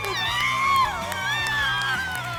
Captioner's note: screaming; applause and cheering